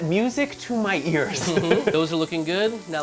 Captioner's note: both chuckling